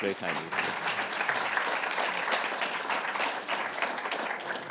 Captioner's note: applause